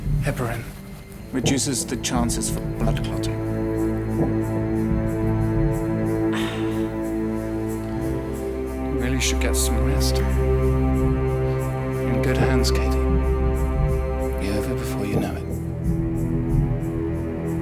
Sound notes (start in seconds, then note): 6.7 Katie groaning